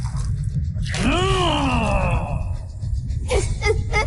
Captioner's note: sobbing; giggles